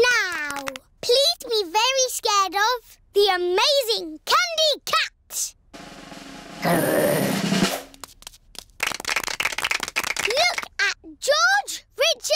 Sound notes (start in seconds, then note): 8.5 applause